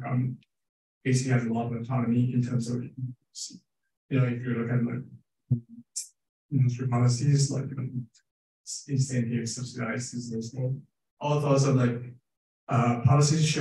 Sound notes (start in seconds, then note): 6.8 speaking faintly